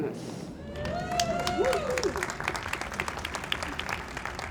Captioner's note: audience cheers